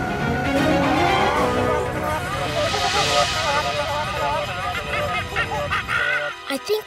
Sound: chattering

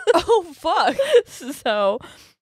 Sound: both laughing

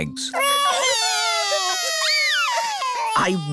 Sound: wailing

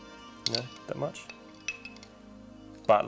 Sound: clattering

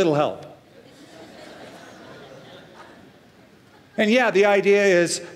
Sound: laughter

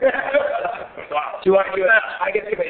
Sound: laughing

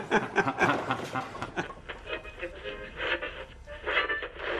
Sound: radio tuning

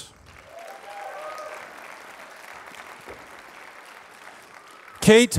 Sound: applause

